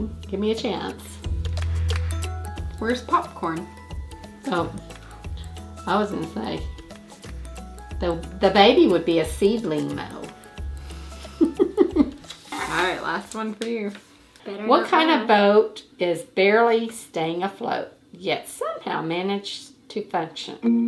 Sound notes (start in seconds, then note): 1.2 upbeat music; 11.4 laughing; 20.7 upbeat music